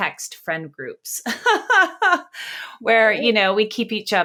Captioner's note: laughs